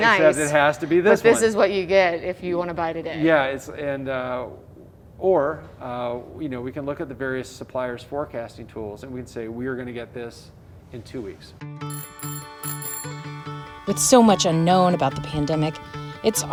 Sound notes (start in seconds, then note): 11.8 upbeat music; 11.8 bell ringing